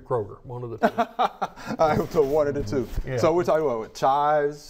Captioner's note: laughing